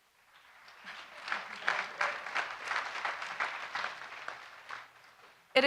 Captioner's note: audience applauding